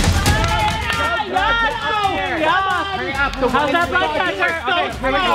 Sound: cheering

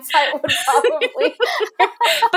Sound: both laughing

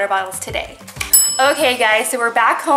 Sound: kitchen timer dings

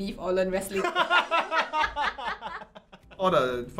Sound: both laughs

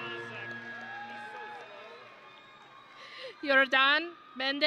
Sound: grand music; audience and graduates cheering

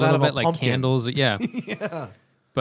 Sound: laughter

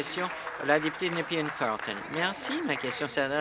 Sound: applause

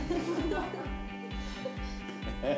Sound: laughing

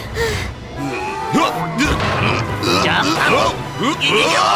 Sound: police grunt

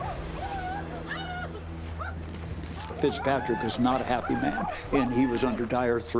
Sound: whooping sounds continue

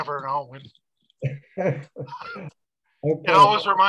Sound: laughs

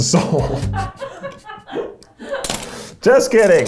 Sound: and producer laughing

